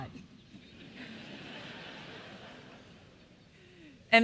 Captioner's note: laughter